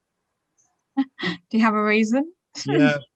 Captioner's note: light laughter